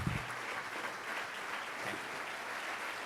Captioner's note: crowd Clapping